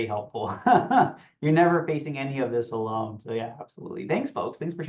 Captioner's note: laughs